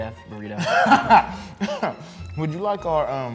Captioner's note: laughing